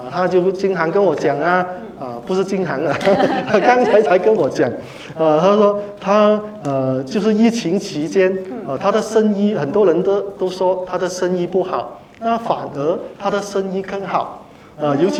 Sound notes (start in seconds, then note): 8.8 laughter